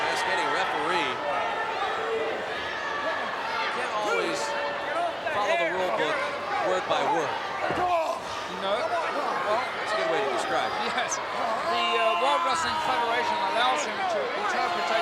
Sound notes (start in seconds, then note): 11.4 wrestlers grunting